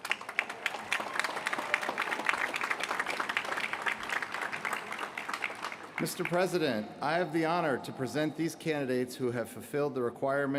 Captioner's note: applause